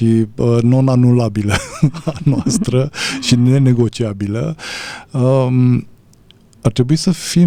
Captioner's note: laughter